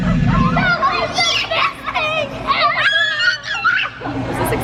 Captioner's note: cheering